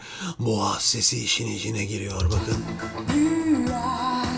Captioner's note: distorted vocals